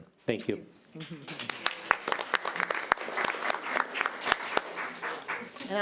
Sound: audience applauds

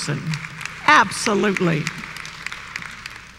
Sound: applause

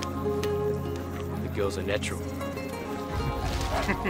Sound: laughing

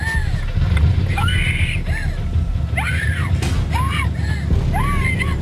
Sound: screaming

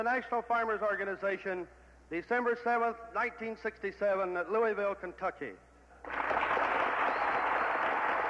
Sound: applause

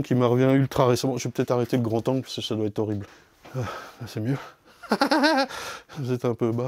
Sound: laugh

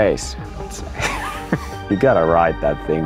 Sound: laughs

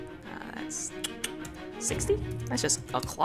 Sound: clicks tongue

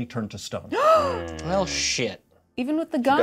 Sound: Certainty gasps

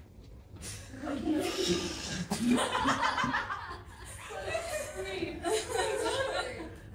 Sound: everyone laughs

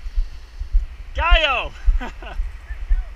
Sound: speaking foreign language; chuckles

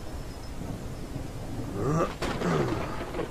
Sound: grunts

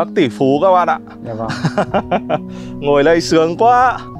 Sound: laughing

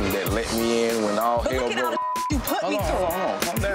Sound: beep

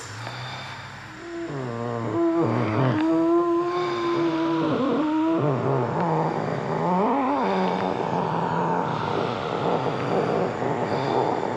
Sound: groaning

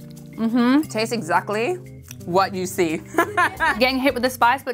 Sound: gentle uplifting music; laughs

